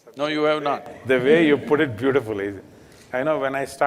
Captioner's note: laughs